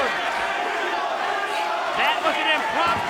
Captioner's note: crowd chanting